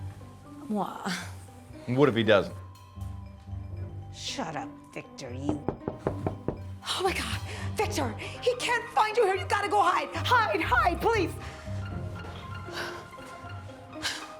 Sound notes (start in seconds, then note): 5.4 knocking on door; 11.6 exhales